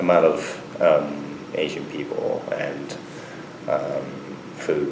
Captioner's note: none